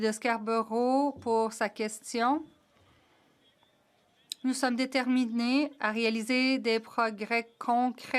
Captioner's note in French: voix de l'interprète